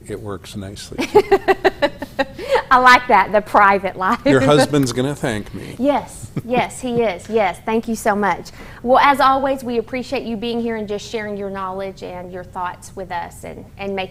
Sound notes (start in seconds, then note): 6.2 laughter